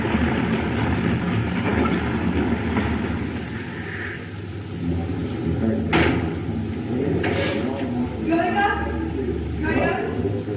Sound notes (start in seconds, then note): 4.2 chattering